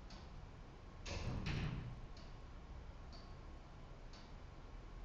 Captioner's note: door thudding